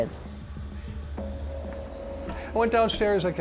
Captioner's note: footsteps